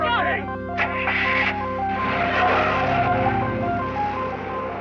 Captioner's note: starts engine